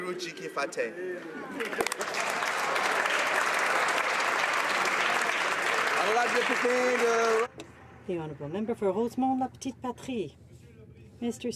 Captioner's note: speaking French